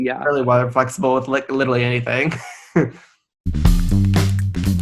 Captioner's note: laugh